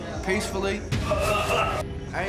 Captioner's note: grunting